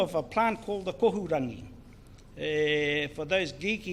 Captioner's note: speaks in foreign language